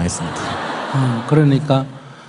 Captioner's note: audience laughter